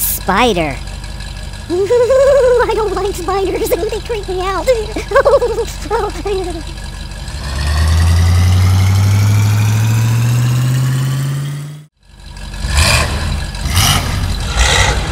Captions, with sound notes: spider eww .... I don't like spiders they really creep me out ...... eww [ engine speedup] [ engine revs]